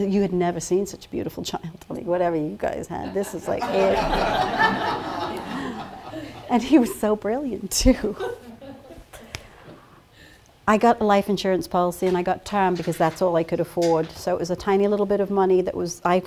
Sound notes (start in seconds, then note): 3.0 laughter